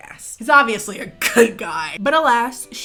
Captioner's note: laughs